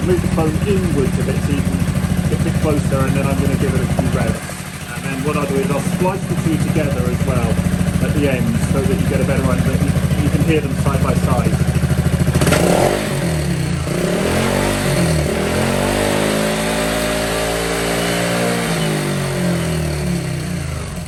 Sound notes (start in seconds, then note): 14.1 engine revving - malossi exhaust